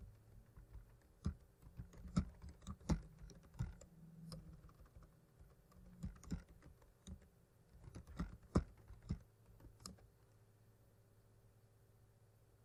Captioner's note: typing